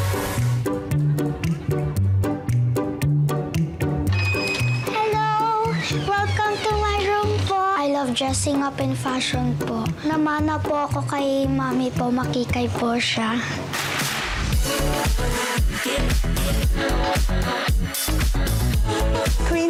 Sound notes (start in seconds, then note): 0.1 bright music playing; 4.0 door creaks; 14.0 upbeat music playing